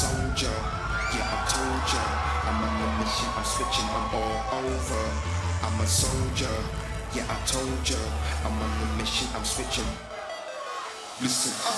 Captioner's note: crowd cheering